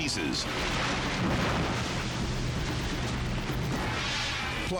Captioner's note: explodes